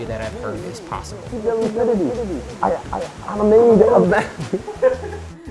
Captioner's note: laughs